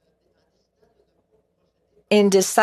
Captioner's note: speaking French